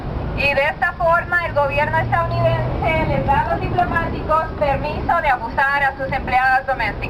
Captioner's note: spanish 00:02:05